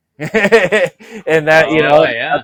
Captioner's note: laughs